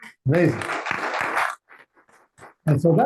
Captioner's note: audience applauding